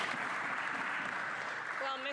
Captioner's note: some Applause